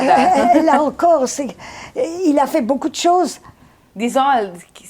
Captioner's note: laughing